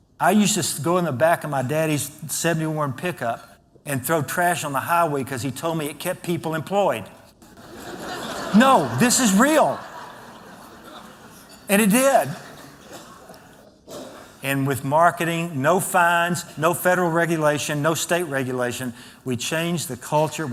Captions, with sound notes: I use to go to the back of my daddy's 71 pickup and throw trash on the highway because he told me it kept people employed. [ Laughter ] No, this is real. And it did. And with marketing, no fines, no federal regulation, no state regulation, we changed the culture.